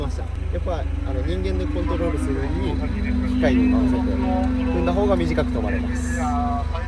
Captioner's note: car